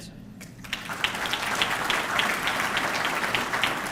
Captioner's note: audience clapping